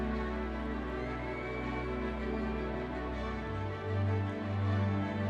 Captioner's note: audience members cheering